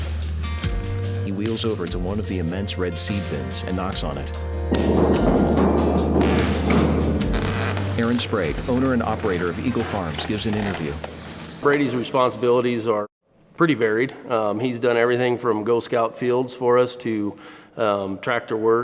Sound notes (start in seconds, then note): 4.6 banging echoes